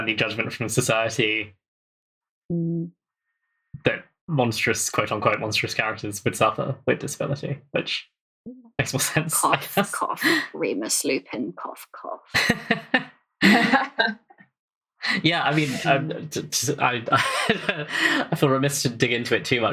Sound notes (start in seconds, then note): 12.3 laughs; 15.1 laughs